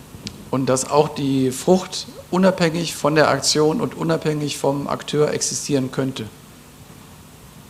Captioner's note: German